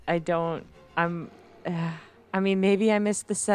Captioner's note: sigh